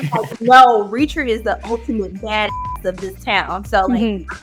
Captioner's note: beep